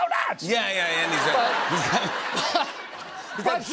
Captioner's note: laughter